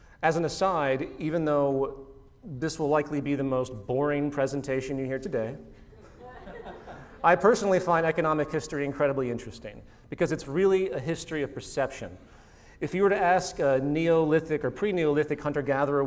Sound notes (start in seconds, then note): 5.9 laughter